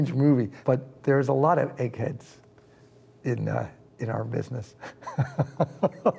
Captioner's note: chuckles